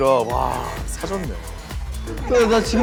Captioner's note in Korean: 긁적 긁적